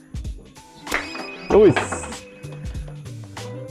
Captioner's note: magical beeping; speaks Japanese